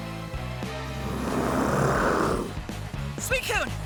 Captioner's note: snarls